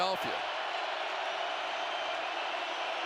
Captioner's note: crowd cheering